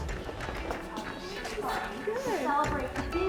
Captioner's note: laughs